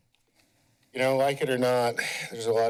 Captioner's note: sigh